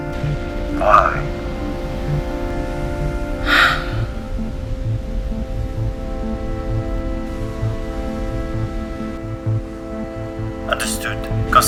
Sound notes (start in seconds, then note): 3.4 sighs